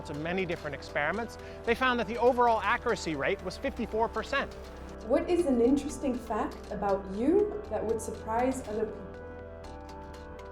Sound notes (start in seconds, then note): 5.2 voiceover